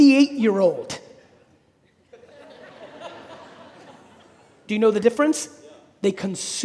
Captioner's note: audience laughing